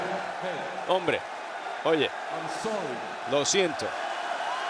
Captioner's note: applause